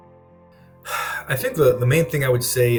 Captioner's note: sighs